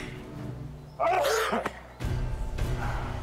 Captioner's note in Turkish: Öksürüyor